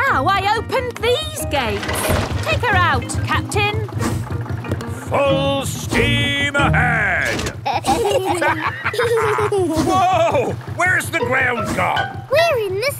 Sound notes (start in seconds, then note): 7.2 lever clangs; 7.5 kids and captain dog laughing